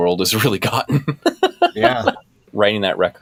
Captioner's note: laughter